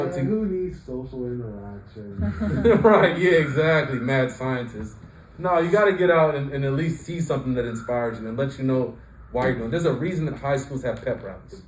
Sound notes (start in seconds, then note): 2.1 chuckling